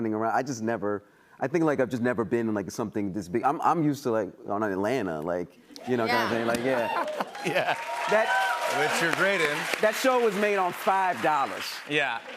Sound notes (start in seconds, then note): 6.0 cheers and applause